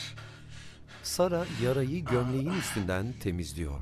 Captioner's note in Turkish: İnleme sesi